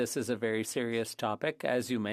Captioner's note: speaking French